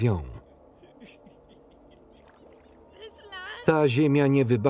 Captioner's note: laughing